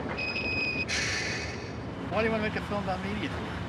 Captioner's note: tram clanging; tram squealing